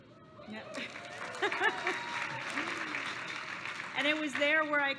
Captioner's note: applause